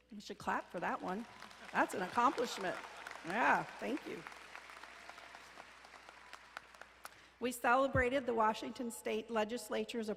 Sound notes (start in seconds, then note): 2.9 crowd applauding; 4.9 crowd applauding